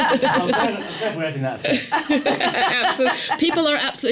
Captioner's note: laughter